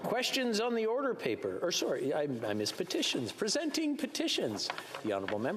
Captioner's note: speaking French